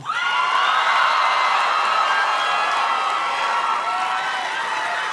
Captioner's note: audience cheers and claps